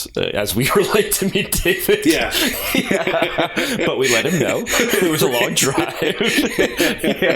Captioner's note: laughter